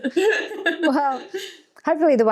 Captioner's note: both laughing